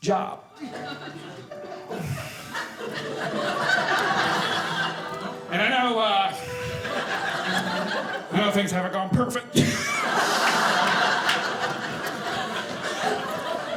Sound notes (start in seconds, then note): 9.6 audience laughing